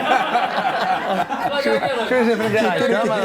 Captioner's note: laughs